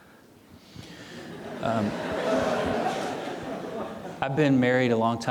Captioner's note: audience laughing